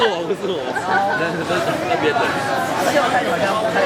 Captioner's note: laughs